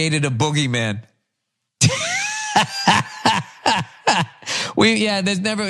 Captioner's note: laugh